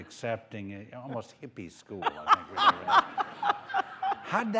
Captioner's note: laughter